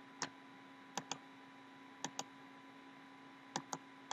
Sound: typing

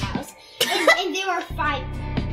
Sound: laughing

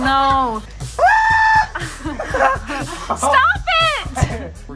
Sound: screaming

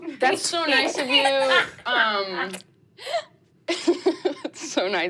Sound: laughing

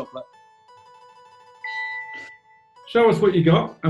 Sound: timer chimes

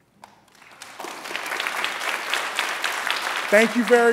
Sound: applause

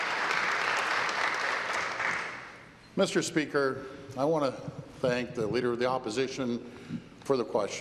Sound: applause

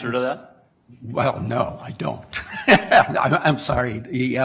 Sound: laughter

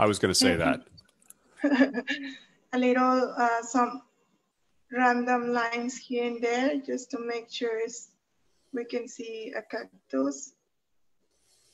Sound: giggles

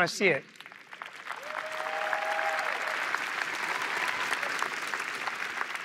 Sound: cheering and applause

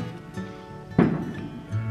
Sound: loud bang

